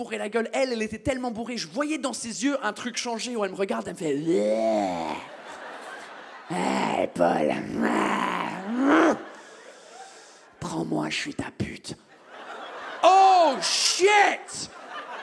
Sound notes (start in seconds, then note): 4.3 drunken growl; 7.7 growls aggressively; 12.8 audience exclaims